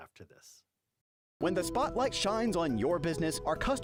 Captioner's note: voiceover